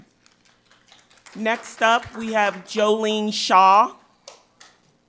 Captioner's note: audience applauds